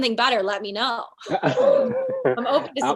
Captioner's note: both laughing